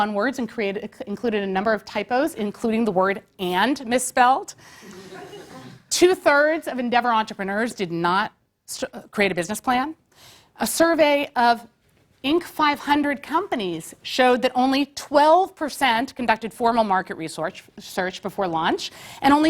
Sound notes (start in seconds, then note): 4.9 laugh